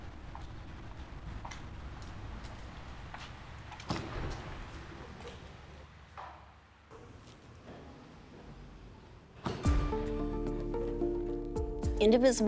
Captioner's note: street traffic noise